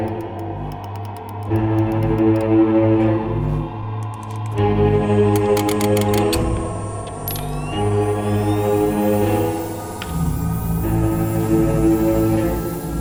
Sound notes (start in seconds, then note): 5.0 lever clicks; 7.9 tense ominous music